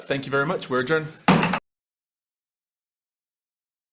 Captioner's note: gavel bangs